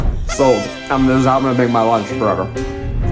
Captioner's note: party horn sound